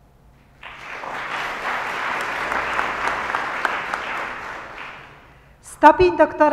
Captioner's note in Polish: oklaski